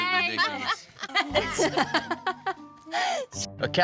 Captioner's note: all chattering; laughter